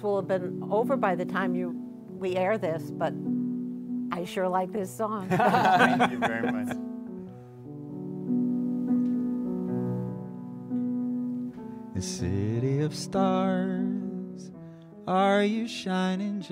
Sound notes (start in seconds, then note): 5.2 laughter